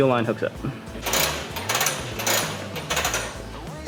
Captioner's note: clanking